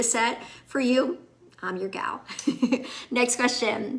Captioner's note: laughs